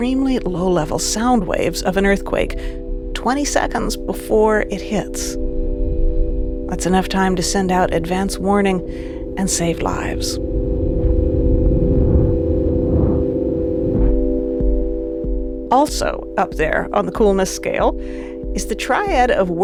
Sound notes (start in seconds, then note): 11.3 muffled vibrations whooshing; 11.3 soft tone chiming